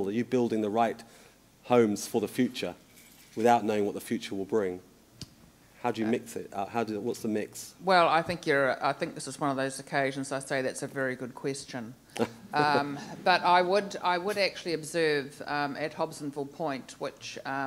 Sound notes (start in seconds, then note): 12.2 audience and chuckle